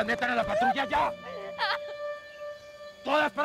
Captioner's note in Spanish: Sollozo